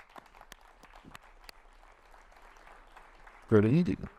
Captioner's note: audience applauding